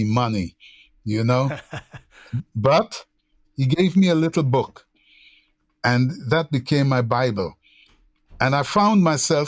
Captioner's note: laughter